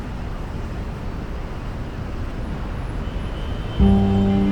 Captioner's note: birds chirp; cars honk